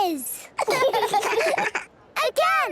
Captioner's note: children laughing